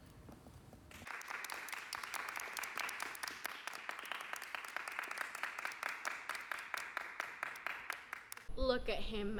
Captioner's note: applause